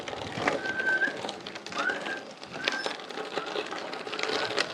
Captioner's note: whistling to me